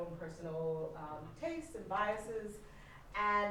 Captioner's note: none